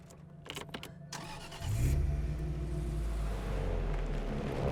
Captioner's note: engine starting